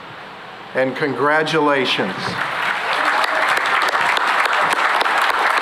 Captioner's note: applause